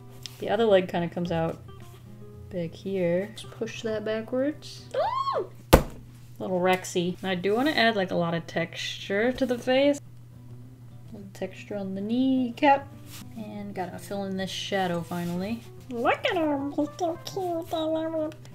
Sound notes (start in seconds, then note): 4.9 squeals in excitement; 5.7 smack